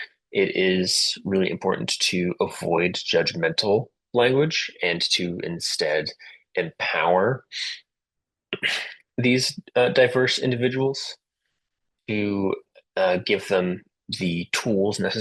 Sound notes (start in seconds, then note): 8.5 interpreter clears throat